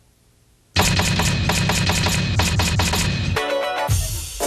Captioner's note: typewriter banging